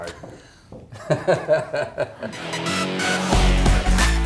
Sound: laughs

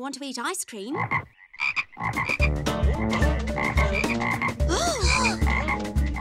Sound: frogs croaking

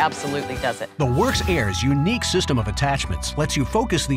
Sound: voiceover

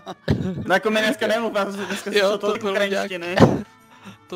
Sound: chatting

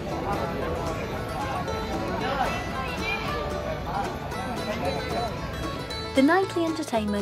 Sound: night time ambience and chattering

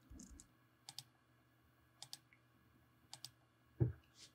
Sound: mouse clicking

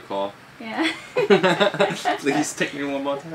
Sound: chuckle

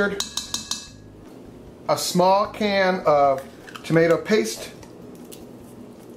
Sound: spoon clanks against pot

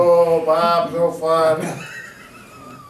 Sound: both laughing

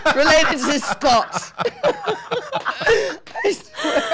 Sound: laughing

